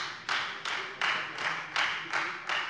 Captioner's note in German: Beifall Freie Demokraten